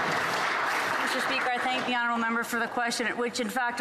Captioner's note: some Applause